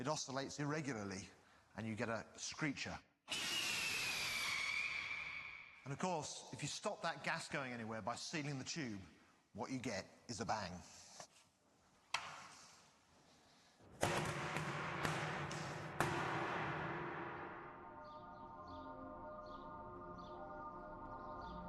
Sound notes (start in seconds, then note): 3.3 harsh, ripping screech; 14.0 pops resounding; 14.0 deep pop